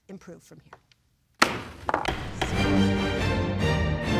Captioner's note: gavel banging; dramatic music